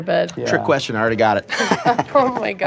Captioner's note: laughs